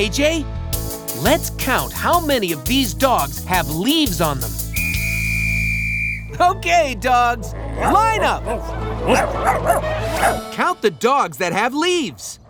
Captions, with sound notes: Let's count how many of these dogs have leaves on them. [whistling] Okay, dogs! Line up! [barking] Count the dogs that have leaves.